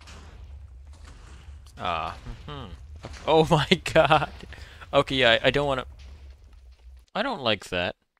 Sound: laughs

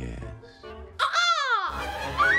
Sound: bird squawk; screams

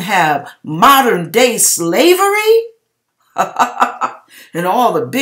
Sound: chuckle Ha Ha

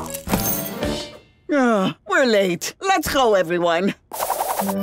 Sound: sighing

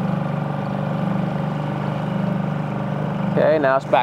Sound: boat engine chugging

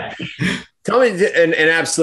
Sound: laughter

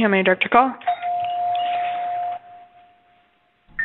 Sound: phone ringing

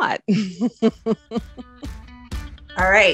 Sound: laughs

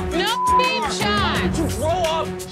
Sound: beep

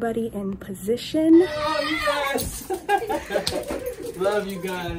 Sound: shouting; laughing

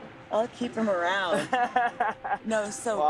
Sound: laughs

